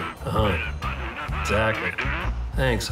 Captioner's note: Huck mumbling agreement